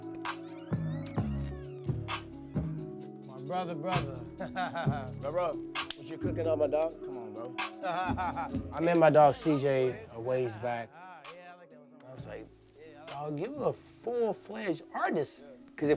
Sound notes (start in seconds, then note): 0.1 bright music playing; 7.8 laughs